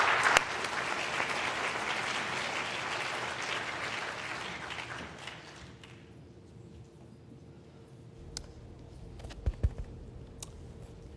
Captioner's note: applause